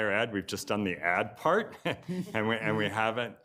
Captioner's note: chuckles